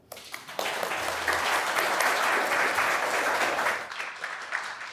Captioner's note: audience applauding